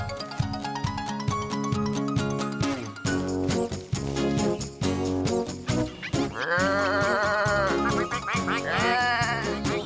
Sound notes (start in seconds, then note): 7.6 sheep Bleating, Ducks Quacking